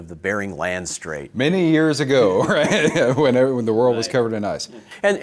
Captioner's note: both laugh